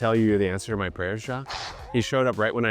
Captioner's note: gasping